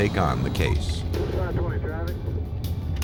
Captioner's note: police radio chatter